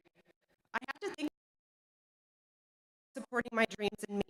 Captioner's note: audio cuts out